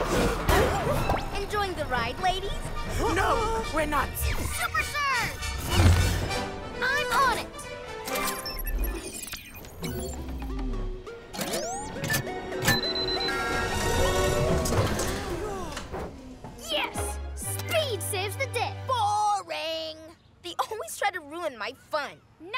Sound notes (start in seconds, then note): 15.2 sighs of relief